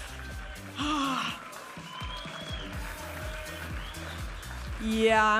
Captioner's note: audience applauding and cheering